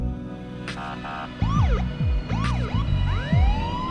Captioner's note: siren